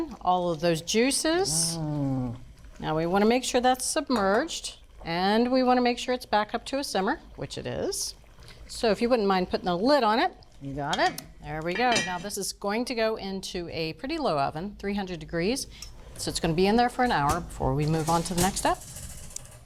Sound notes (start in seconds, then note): 11.6 lid clanging